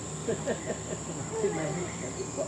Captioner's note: family laugh